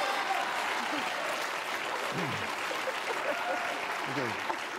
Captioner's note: applause